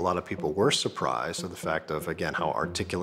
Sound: none

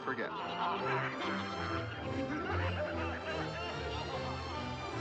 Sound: Mr. Toad characters laughing

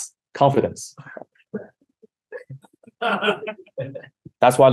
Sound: laughing

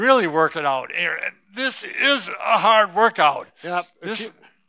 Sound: grunts

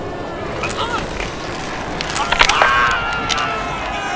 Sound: shouting; crowd murmuring

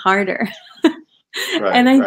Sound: laughing

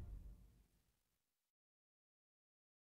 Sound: silence

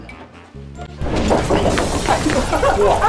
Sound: knocks over entire shelf

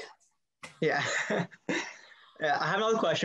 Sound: both laughing

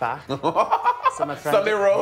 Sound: laughing

